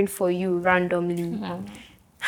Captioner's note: laughs